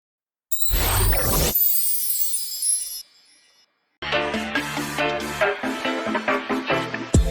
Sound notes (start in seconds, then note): 0.5 logo twinkling; 4.2 caribbean music